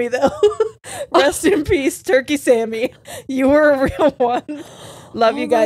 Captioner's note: laughs